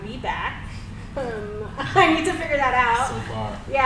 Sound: laughs

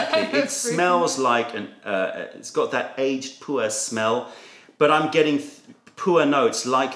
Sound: laughter

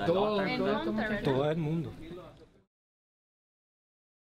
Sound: non-english speech

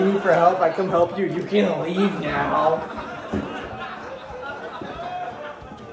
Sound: laughter

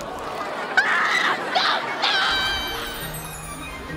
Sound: screaming

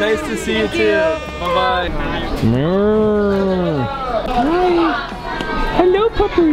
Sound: imitating cow sound

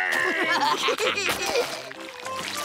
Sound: laughing

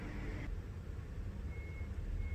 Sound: whirr

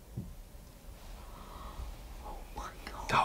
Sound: gasps

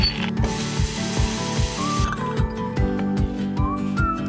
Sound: water running

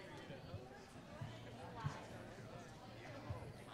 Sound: chatter

